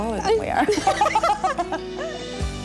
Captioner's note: laughter